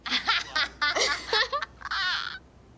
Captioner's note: laughing; laughs